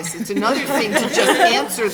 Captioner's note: laughing